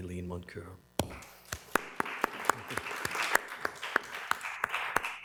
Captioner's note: applause